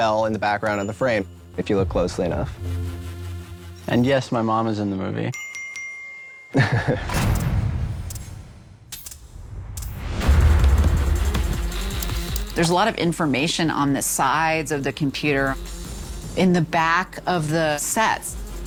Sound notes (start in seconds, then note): 5.3 bell dings; 6.5 chuckles